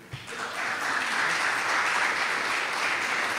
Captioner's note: applause